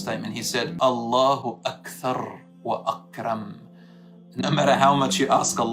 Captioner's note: Arabic